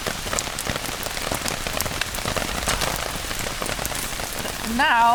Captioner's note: rain